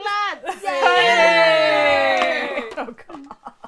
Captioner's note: cheering